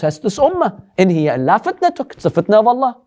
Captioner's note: Arabic